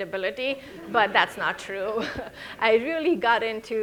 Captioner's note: all laughing